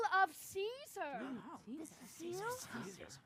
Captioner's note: overlapping chatter